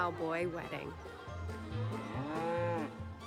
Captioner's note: cow moos